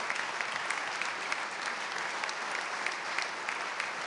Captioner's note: applause